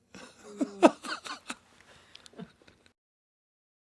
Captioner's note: John laughing